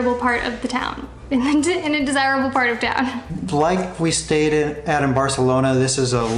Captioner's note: fumbling over her words